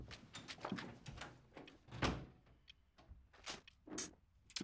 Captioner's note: door clicks